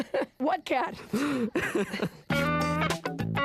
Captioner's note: laughing; both laughing